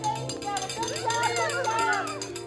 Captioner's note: bell ringing